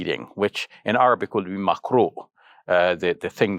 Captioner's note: speaks Arabic